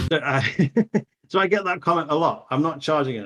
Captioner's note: laughs